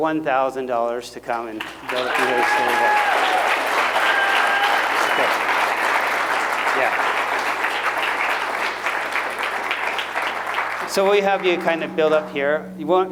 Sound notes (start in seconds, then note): 3.2 applause